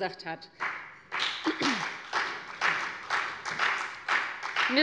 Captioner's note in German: Beifall bei der FDP